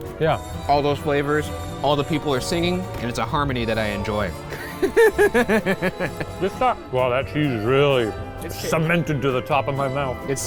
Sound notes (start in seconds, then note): 4.6 laughs